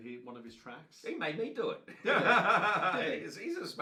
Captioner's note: laughs